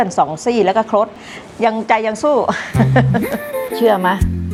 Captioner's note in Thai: เสียงหัวเราะ